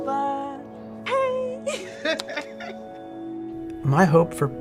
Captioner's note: laughing